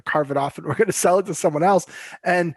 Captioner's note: chuckles